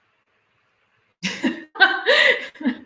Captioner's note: laughter